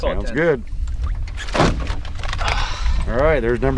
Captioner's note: clunk